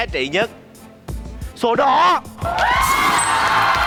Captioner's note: clapping